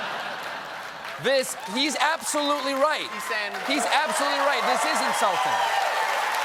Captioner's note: laughter